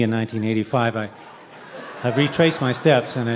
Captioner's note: audience laughing